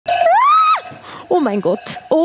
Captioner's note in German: Schrei